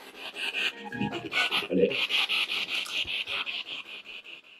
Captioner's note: radio noise from the spirit box